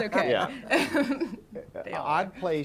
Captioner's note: laughter